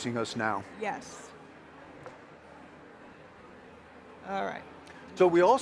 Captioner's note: attendees chattering